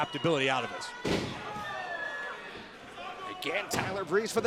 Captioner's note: crowd cheering